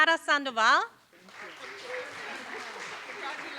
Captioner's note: applause